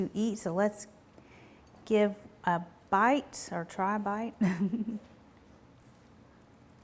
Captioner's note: chuckles